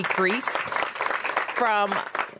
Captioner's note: applause